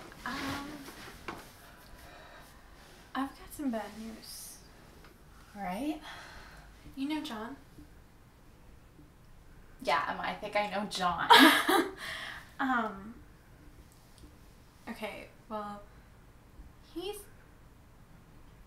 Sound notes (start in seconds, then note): 11.3 laughs